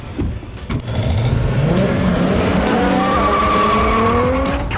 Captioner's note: engine Sounds